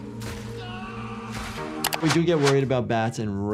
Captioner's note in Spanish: niño gritando